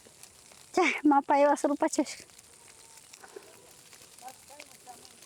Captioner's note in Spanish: el viento